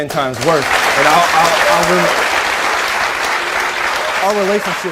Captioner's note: applause drowns out speaker